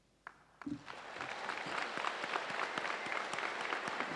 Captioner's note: audience applauds